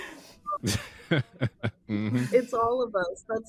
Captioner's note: laughing